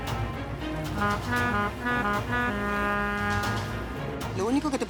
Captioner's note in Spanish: Sirena del bote